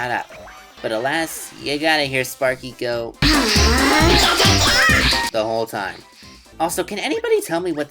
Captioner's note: Sparky screams